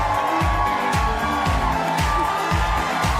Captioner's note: cheers and applause